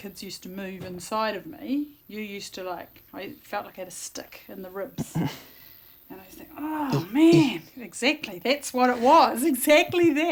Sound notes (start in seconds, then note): 8.0 makes thumping noise